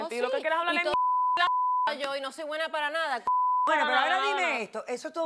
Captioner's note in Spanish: Bip